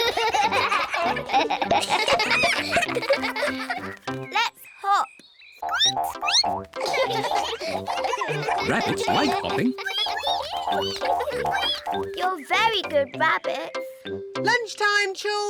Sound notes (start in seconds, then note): 0.0 all giggle; 6.7 squeaks; 6.7 all giggle; 12.0 all squeak